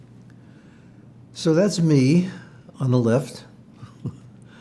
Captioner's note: laughing